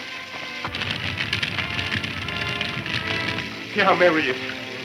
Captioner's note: fire crackling